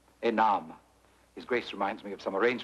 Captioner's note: priest speaks foreign language; speaks foreign language